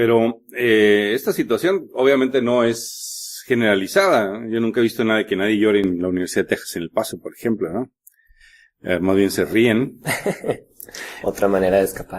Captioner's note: laughs